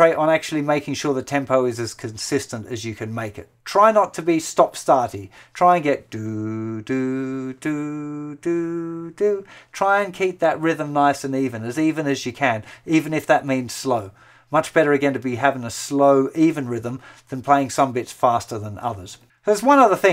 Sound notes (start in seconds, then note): 6.1 humming